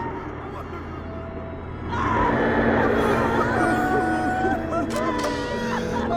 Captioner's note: men and women wailing